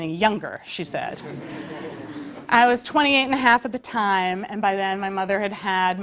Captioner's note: laugh